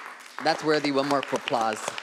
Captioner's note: audience applauds